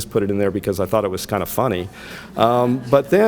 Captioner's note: audience laughs